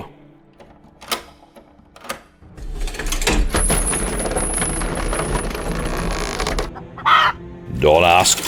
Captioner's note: lock click, frightened chicken